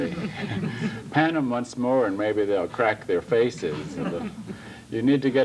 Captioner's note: laughter